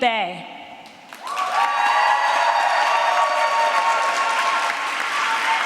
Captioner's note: applause